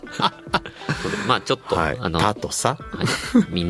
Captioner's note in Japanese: 笑い